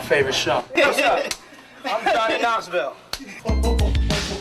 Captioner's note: slap